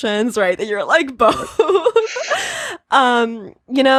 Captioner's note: laughs